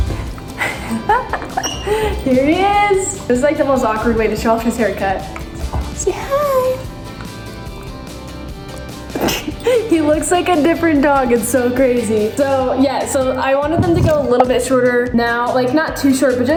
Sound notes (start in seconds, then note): 0.1 laughing; 9.0 chuckles